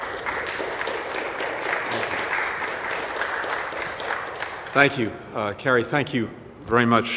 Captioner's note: applause